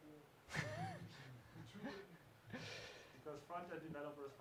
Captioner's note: chuckling